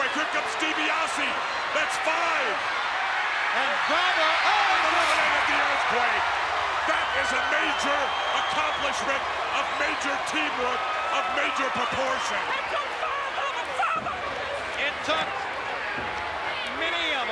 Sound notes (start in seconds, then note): 3.0 applause